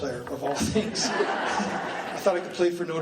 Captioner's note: laughing